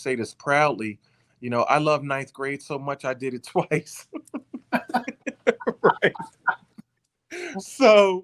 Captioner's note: laughing